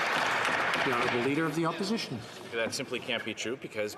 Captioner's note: some Applause